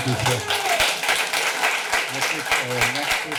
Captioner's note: clapping